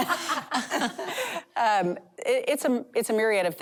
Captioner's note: laughter